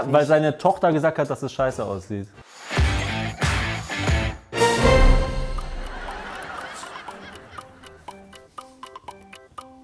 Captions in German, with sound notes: Weil seine Tochter gesagt hat, dass es scheiße aussieht. (Rockige Musik) (Lachen) (Abwartende Musik)